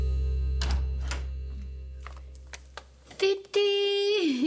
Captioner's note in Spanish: Sonido al abrir la puerta